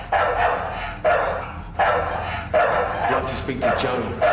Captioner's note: dog barking